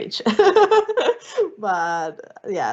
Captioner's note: laughing